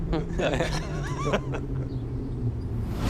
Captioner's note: laughing